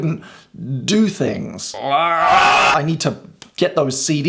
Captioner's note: speaker groans